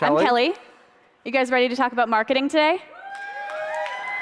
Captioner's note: audience cheers